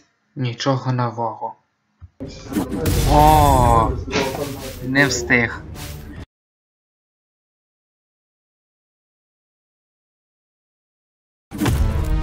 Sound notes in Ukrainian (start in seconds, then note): none